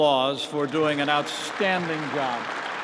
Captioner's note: applause